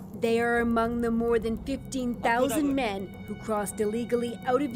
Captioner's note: speaking alternate language